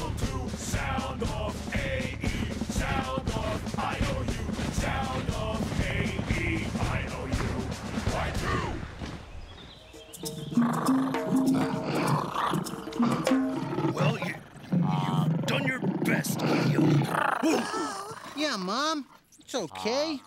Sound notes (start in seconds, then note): 10.6 Cleo growling; 16.2 growling louder